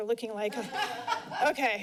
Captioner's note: laughter